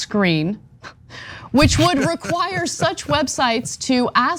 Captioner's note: laugh